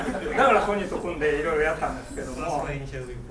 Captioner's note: speaking in foreign language